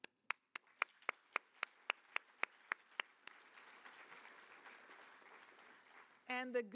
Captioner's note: applause